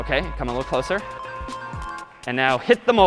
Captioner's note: dinging